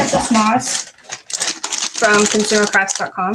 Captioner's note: plastic crinkling